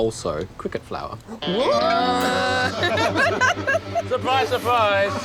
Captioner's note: laughter